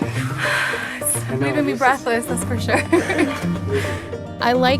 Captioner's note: laughs